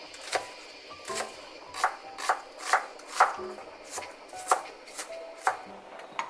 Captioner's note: chopping